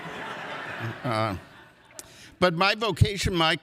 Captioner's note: audience laughs